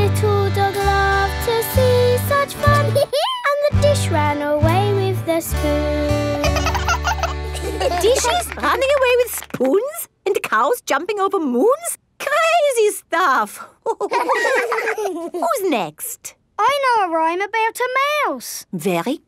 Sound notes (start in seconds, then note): 3.0 dog laughs; 6.3 both laugh; 13.8 all laughing